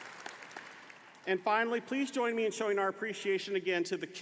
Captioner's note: applause